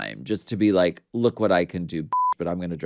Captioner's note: beep